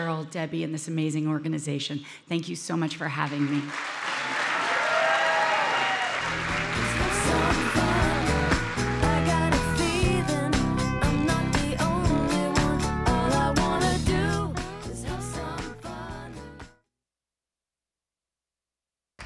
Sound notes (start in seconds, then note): 3.6 audience cheering